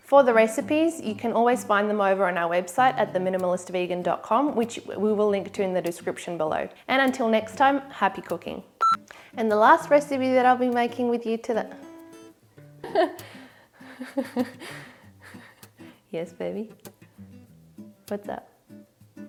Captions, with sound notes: For the recipes, you can always find them over on our website at theminimalistvegan.com, which we will link to in the description below. And until next time, happy cooking. And the last recipe that I'll be making with you toda. (laughing) Yes, baby? What's up?